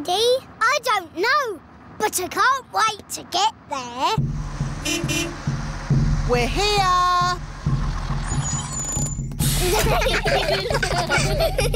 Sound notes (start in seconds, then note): 4.5 horn beeps; 9.5 children giggling